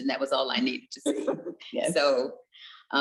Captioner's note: chuckles